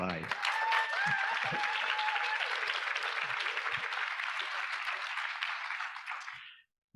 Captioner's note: audience applauding; audience cheering